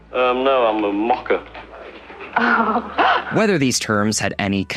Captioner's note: laughs